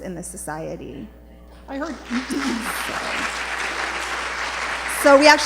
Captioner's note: applause